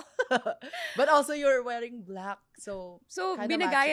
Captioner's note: laughs